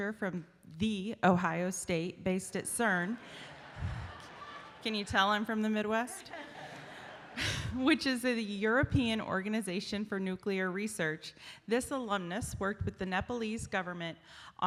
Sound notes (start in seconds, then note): 3.1 audience laughs